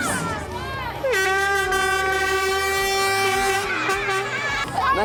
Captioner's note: air horn blows